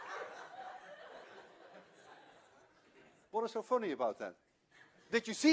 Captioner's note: laughter